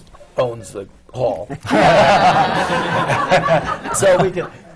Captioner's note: laughter